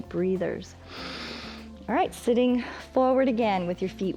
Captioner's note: inhales